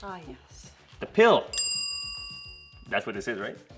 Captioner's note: bell chimes